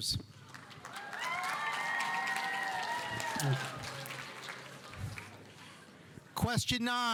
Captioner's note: audience applauding; audience cheering